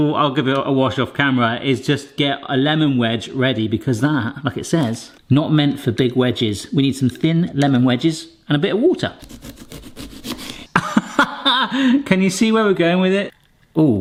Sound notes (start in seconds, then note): 9.2 knife hacking; 10.7 laughs